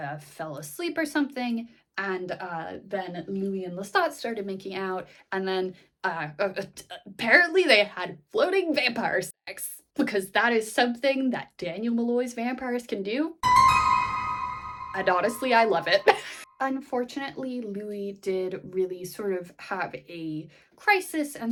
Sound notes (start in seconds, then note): 6.1 stammering